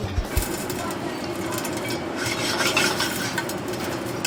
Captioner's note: popcorn popping